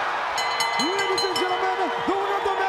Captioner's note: crowd cheering; bell ringing